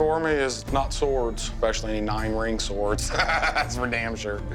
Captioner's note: laughs